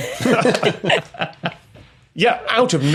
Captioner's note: group laughing